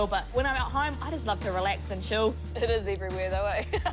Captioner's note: laughs